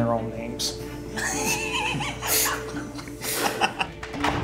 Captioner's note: laughing